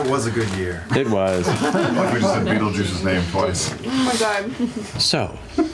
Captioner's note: laughter; laughs